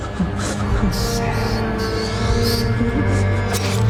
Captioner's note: squeaking